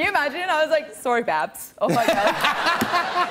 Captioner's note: laughter